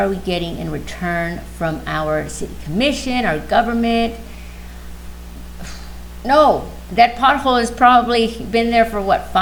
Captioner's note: sigh